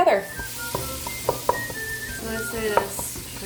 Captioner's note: pans sizzling